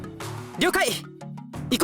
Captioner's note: none